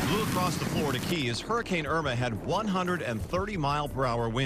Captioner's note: wind blowing